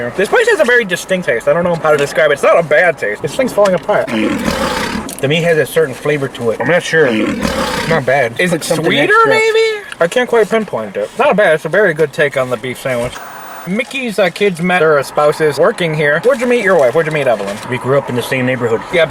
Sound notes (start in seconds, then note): 4.0 lion roaring; 7.0 lion roaring